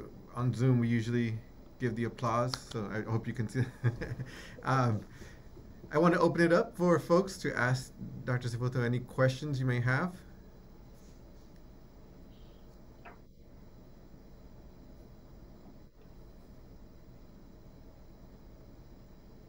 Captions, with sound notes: On Zoom, we usually give the applause, so I hope you can see. [LAUGHS] I want to open it up for folks to ask Dr. Sefotho any questions you may have.